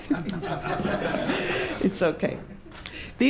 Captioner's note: laughter